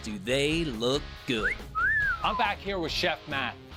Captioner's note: man whistling